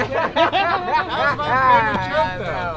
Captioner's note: laughing